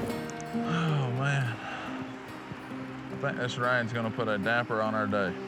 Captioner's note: rain falling; sighs